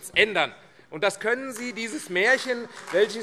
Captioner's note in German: Beifall AfD